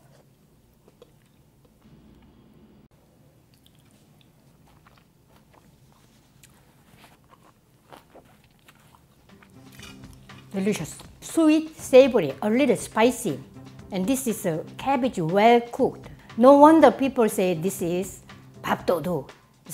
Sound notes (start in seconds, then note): 0.1 slurps; 4.5 chomping